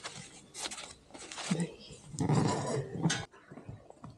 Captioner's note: zipping up bag